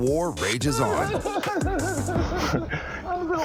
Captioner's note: chuckles